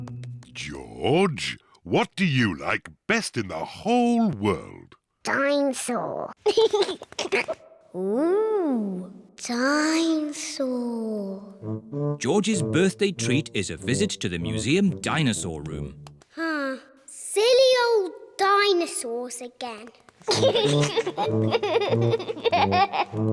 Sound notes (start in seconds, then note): 6.4 giggles; 20.2 giggling